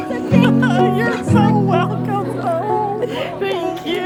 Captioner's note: laughing